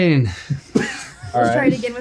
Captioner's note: laughing